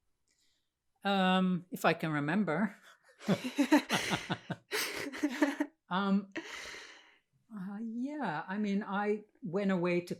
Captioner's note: laughter